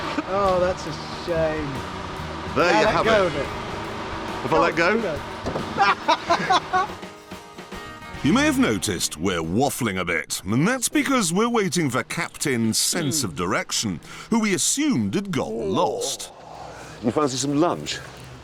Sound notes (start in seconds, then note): 5.7 richard laughs